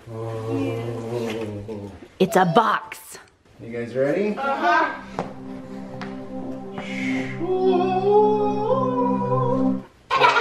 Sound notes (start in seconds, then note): 4.9 kids In Unison